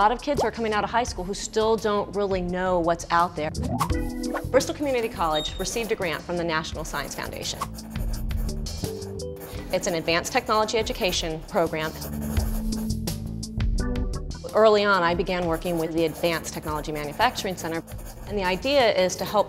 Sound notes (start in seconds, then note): none